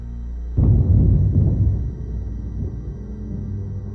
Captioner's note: thunder